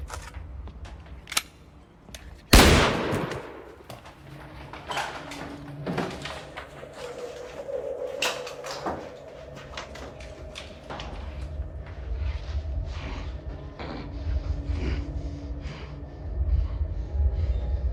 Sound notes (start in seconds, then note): 2.1 gun clicking; 2.5 gun firing; 14.3 Robert groaning